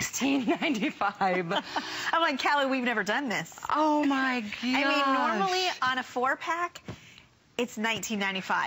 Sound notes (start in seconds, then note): 0.2 laughter